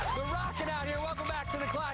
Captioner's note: cheers and applause